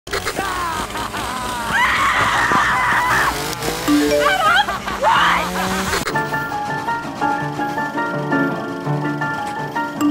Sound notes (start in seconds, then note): 0.1 chain saw revving; 0.1 evil laughter; 1.6 woman screaming; 3.9 text message alert sounds